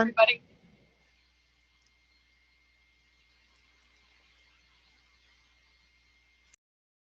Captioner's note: silence